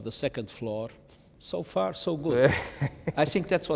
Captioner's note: Ian chuckles